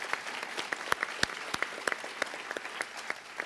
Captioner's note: applause